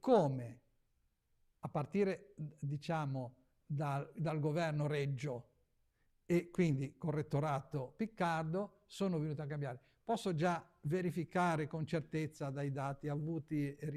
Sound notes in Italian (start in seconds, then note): none